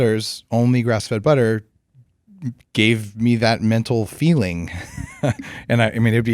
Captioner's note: laughs